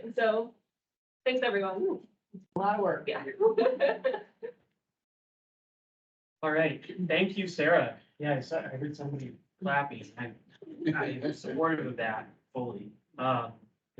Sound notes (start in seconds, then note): 3.3 laughs